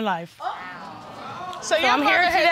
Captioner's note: audience exclaiming